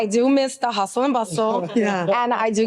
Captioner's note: group laughs